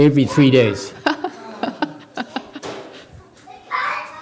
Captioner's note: speaker laughs